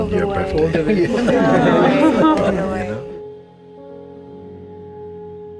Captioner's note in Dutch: gelach